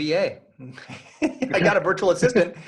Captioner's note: laughing